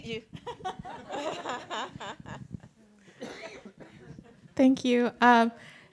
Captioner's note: laughs